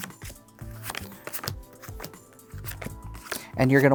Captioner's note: cards slapping